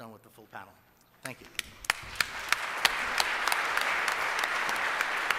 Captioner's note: applause